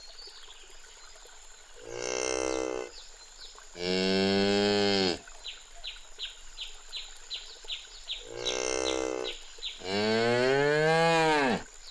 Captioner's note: animal sounds